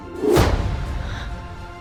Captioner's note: slam